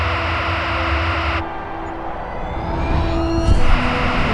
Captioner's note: strong wind blowing